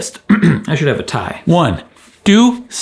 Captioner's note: clears throat